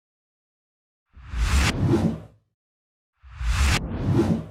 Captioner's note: electronic whoosh